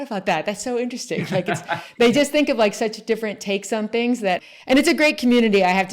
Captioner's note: laughs